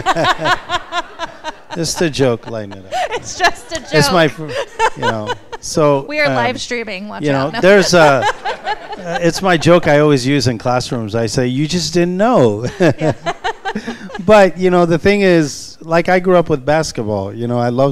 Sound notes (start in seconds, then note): 7.8 laughter